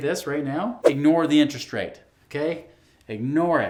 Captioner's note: air whooshing